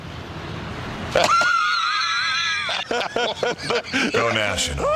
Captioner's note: laughter